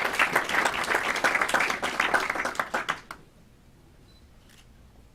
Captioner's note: clapping